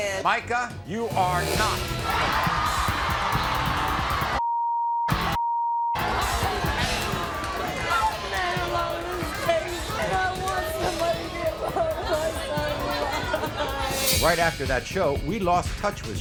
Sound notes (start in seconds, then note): 1.6 cheering; 13.2 sobbing